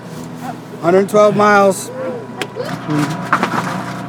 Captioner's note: group cheers